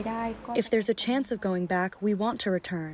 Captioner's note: through translator